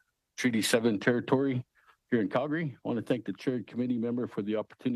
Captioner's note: speaking Alternate Language